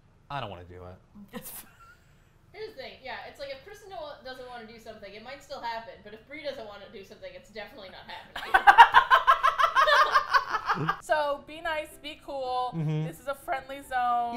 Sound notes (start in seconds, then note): 1.2 laughs; 8.4 all laugh